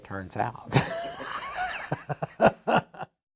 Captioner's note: laughter